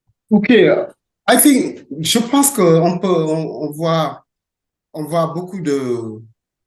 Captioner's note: speaking in French